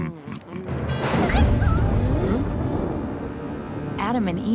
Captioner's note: thunderstorm noises